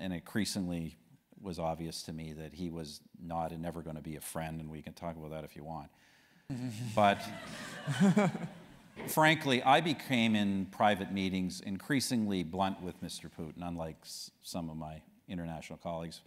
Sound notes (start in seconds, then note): 6.5 laugh